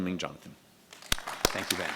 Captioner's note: audience applause